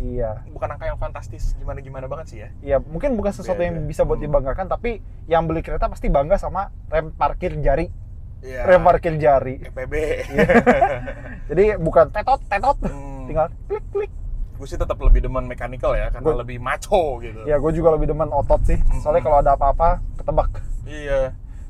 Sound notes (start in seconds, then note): 10.0 laughing